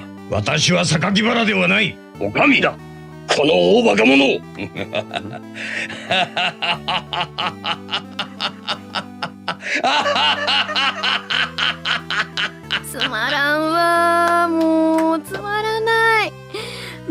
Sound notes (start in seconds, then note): 7.2 laughs